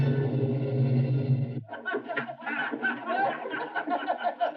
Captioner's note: all laughing